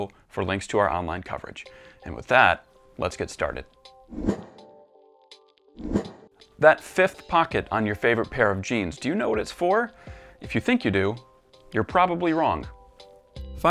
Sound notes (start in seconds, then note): 4.1 air whooshing